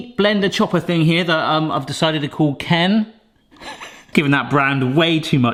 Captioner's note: chuckles